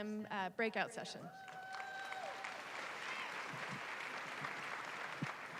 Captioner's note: cheers